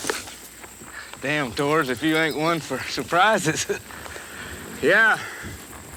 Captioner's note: chuckles